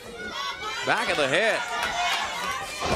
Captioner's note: crowd cheering